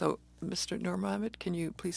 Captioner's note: speaking in French